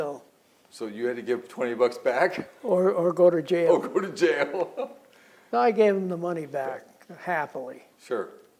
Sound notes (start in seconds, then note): 3.7 laughs; 4.2 laughter